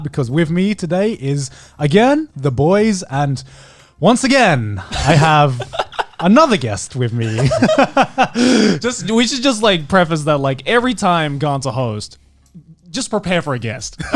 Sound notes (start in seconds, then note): 4.5 laughing; 7.0 chuckles